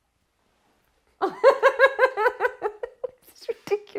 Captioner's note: laughs